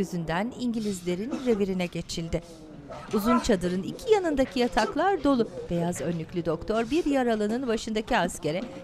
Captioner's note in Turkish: inleme sesleri